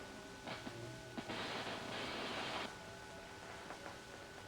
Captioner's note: static